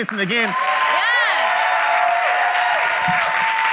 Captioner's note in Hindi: ताली